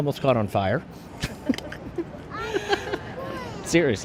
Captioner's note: laughter